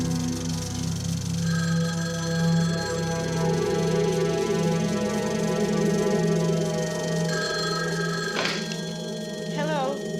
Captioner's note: dramatic Music; phone Ringing; wind Howling